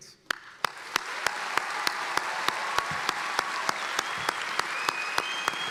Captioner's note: applauding and cheering